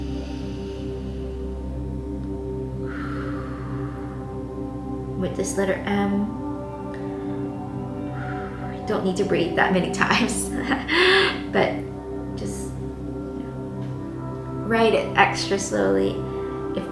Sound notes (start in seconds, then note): 0.1 inhaling; 2.8 exhaling; 8.0 exhaling; 10.1 laughing